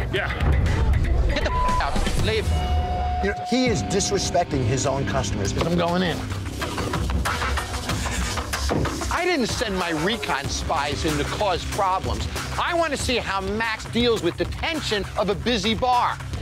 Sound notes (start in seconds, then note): 1.4 beep